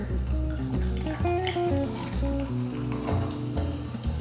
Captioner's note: lemonade fizzing